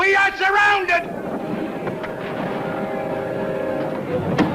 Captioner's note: crowd chattering; footsteps tapping; suspenseful music